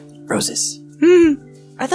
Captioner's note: chuckles